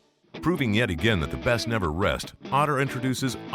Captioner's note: voiceover